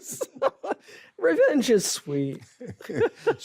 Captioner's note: laughs; ben laughs